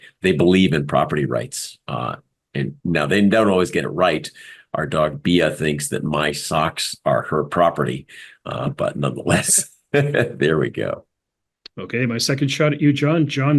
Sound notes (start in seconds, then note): 9.9 laugh